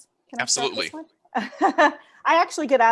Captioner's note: laughs